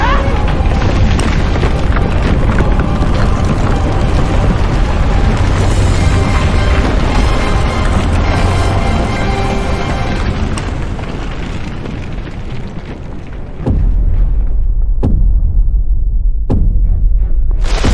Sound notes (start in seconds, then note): 0.2 Xu Xang grunting; 7.8 dramatic orchestral music continues; 13.7 footsteps thudding